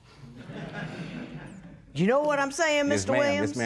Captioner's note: laughter